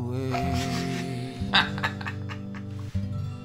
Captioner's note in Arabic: يضحك